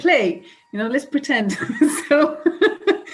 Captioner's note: laughs